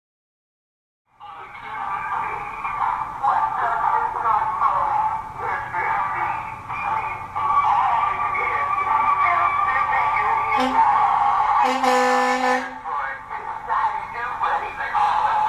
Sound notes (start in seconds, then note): 0.0 sound of Santa truck